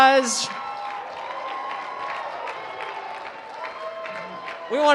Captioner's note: cheering